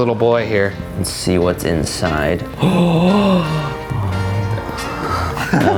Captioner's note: gasps loudly